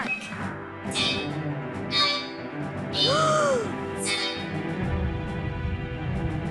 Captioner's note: electronic voice